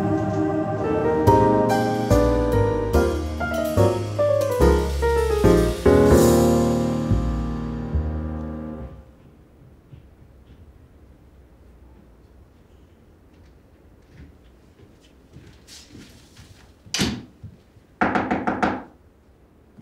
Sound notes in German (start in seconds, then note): 18.0 klopfen